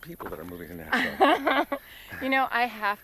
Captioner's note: Connie laughs